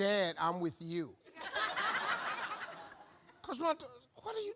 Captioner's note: audience laughs